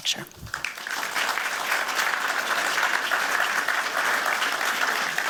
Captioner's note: applause